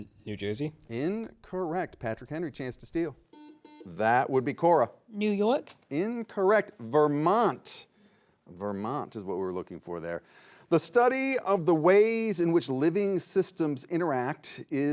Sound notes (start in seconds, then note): 3.3 buzzer beeping